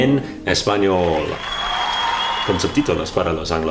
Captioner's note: applause